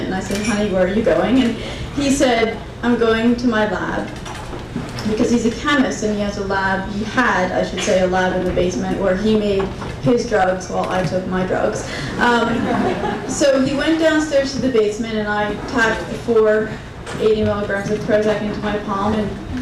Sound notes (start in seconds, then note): 12.1 crowd laughing